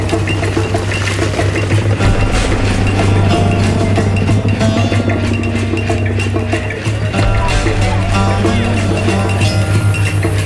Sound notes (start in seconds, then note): 6.5 speaking foreign language